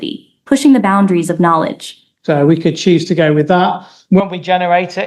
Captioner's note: AI voice stops